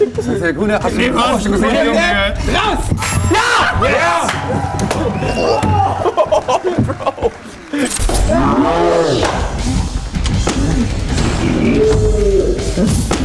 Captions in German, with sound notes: Hast du den vorher schon gesehen? Hände raus! - Ja! Ja! (Jubel) (Schrei) (Beklemmende Musik)